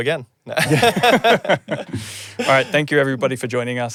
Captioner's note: both laughing